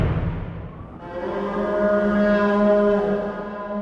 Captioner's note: fierce wind; horn